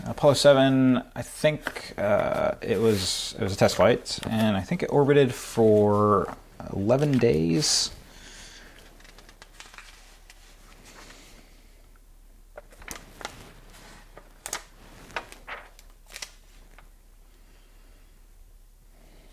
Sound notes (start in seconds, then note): 12.5 page crinkling